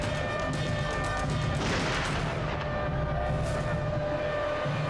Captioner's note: gun bangs